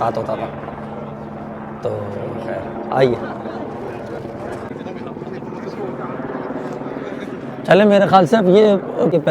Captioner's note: people speaking